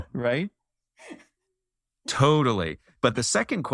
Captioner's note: laugh